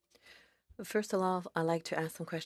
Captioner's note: speaking FRENCH